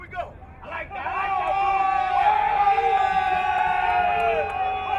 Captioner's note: crowd cheering